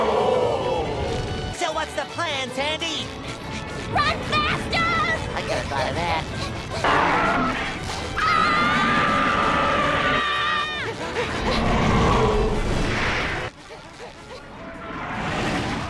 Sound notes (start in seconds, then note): 6.6 crashing; 8.1 screaming